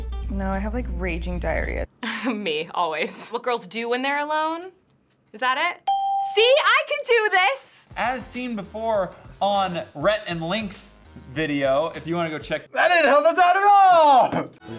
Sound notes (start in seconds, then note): 2.1 chuckles; 5.8 ding